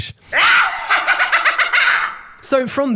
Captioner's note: Spinal laughing menacingly